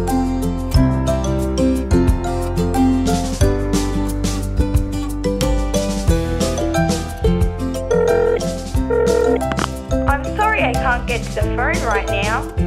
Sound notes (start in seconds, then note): 7.9 phone ringing